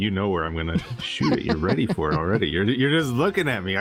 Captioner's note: laughs